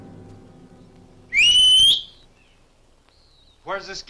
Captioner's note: Thorne whistles